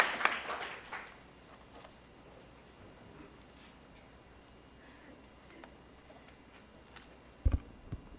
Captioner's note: applause